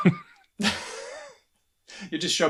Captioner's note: laughter